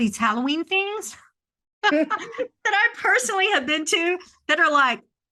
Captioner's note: laughter